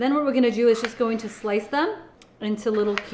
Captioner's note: knife slicing